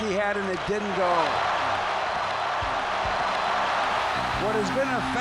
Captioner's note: crowd cheering